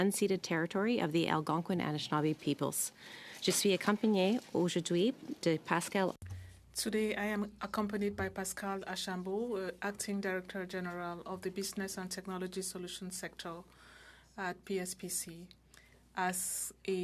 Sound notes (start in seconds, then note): 10.0 speaking French